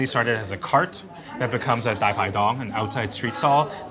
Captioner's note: speaking foreign language